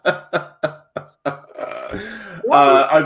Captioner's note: laughs